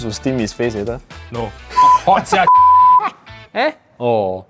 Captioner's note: beep